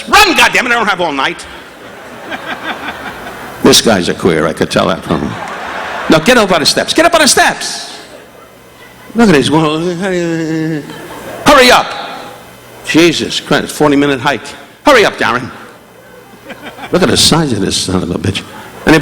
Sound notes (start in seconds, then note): 1.7 audience laughing; 5.0 audience laughing; 10.1 Don groaning